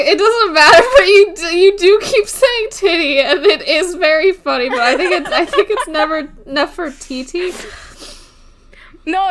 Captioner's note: laughs; laughing